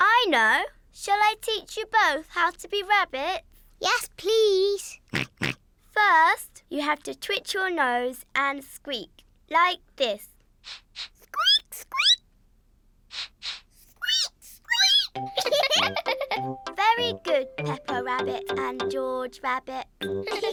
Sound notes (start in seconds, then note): 5.2 snorts in agreement; 10.6 sniffs and squeaks; 13.1 both sniff and squeak; 15.6 giggling; 20.2 all giggle